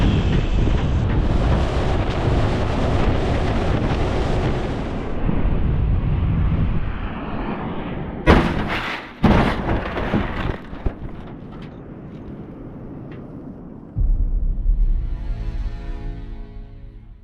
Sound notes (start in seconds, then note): 0.0 wind rustling; 8.3 cargo thudding; 14.0 dramatic music